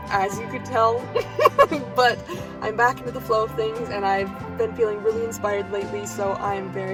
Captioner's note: laughs